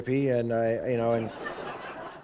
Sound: laughter

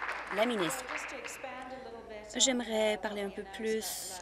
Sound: applause

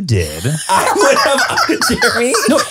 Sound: everyone laughs

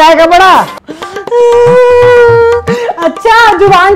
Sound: crying

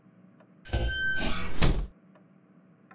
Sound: coffin lid closing

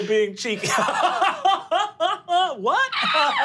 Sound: laughing

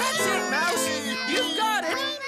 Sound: cheer

